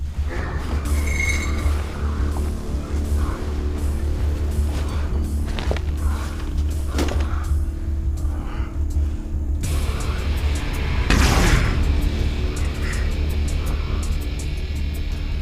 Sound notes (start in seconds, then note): 0.1 metal scraping; 9.7 dramatic music